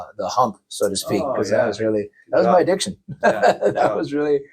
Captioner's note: laughs